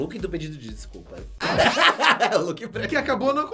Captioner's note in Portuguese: risos